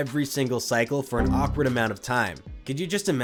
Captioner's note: Windows error sound